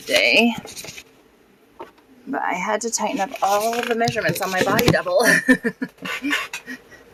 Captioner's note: chuckle